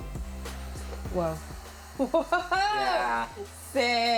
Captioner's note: laughing